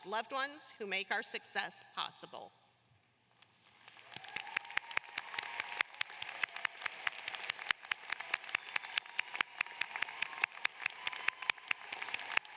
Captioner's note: cheers and applause